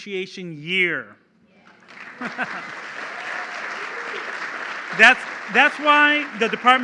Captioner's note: applause